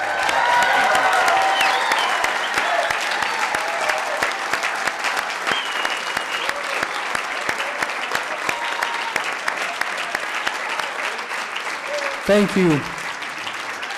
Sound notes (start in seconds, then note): 3.1 applause